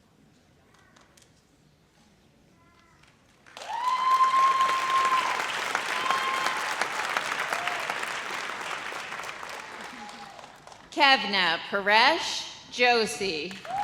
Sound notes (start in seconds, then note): 3.4 audience applauds